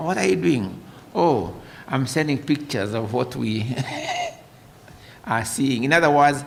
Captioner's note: laughter